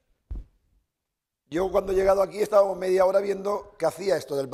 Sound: speaking spanish

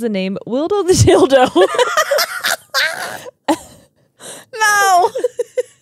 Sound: laugh

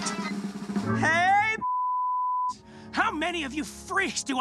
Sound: beep

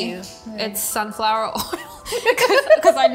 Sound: laughs

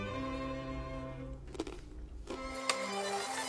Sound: crunching

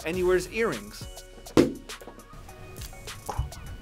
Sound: object thumps

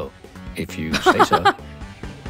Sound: chuckles

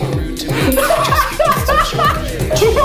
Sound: laughing

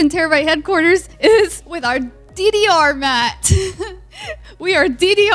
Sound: laughs

